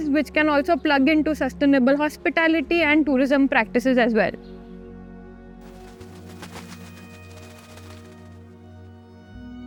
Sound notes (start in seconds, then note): 5.6 birds flattering